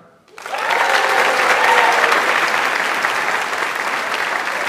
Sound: audience applauds

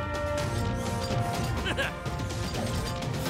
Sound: chuckles

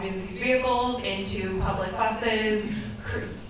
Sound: none

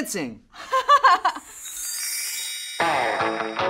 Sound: laughs; upbeat music

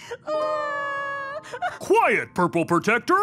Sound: crying

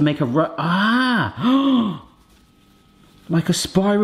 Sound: gasps

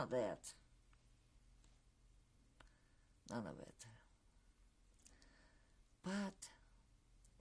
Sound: pauses for 3 seconds

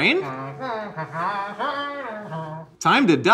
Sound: Glorp-Glorp exclaims

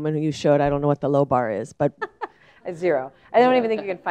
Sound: laugh

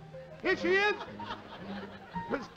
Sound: laughter

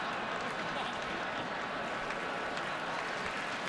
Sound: laughter

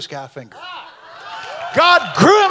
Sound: audience cheers

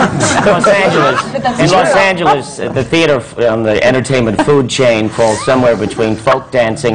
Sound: laughter

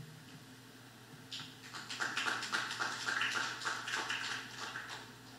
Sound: applause

